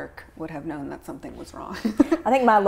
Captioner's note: chuckles